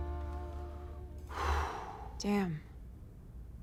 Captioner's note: breaths deeply